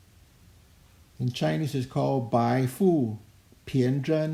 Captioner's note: speaking in Chinese language